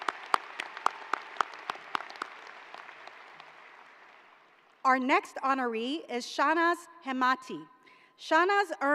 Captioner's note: applause